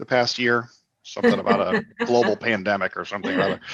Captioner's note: laughs